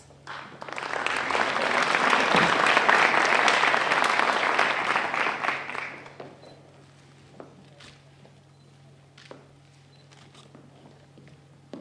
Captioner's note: applause